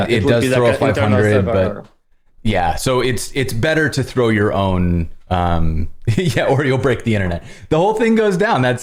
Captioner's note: laughter